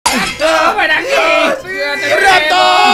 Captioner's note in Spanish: Enojado